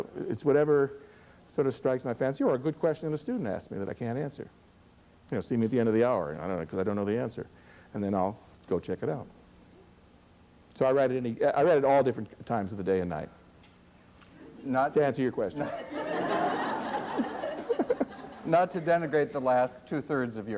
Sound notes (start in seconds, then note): 15.5 laughter